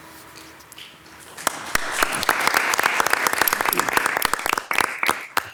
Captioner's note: council applauds